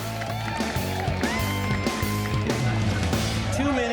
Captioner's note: cheering